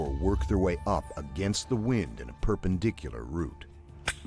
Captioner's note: voiceover